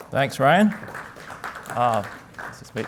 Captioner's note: applause